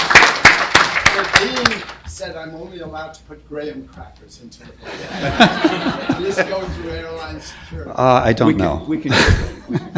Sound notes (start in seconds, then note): 4.8 laughter